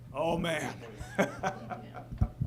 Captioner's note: laughs